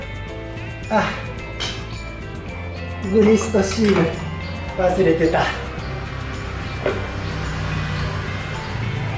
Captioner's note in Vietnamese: cười